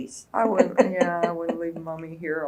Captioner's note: laughs